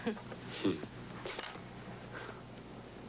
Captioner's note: laughing